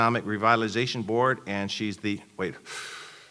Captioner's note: loud breath in and out